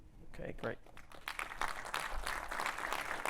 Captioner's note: applause